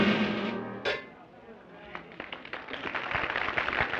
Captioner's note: applause